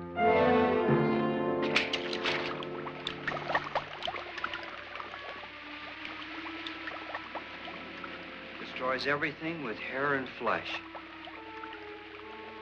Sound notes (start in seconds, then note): 0.1 liquid splashes; 0.1 suspenseful music; 3.5 bubbling & fizzing